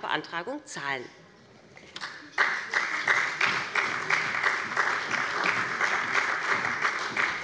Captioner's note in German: Beifall bei dem BÜNDNIS 90/DIE GRÜNEN und der CDU